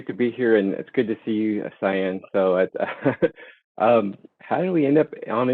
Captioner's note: laughing